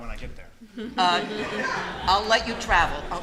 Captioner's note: laughter